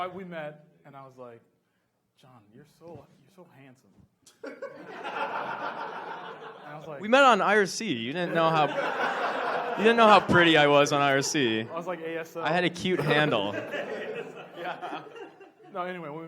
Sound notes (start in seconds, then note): 4.5 audience laughs; 14.3 audience laughs